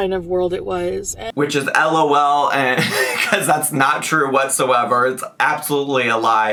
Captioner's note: chuckles